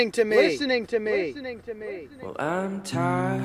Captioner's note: words echoing